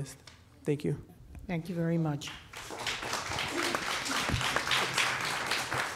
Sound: applause

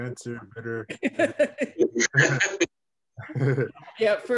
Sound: laughing

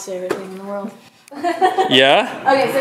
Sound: laughs

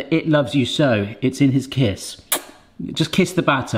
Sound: kisses

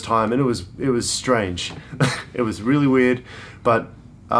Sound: laughs

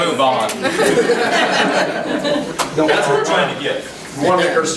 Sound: overlapping chattering; group laughs

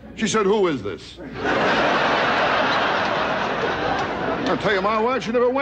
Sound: audience laughing

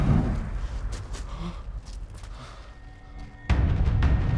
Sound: breathing shakily; action music playing

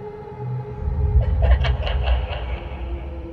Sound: laugh

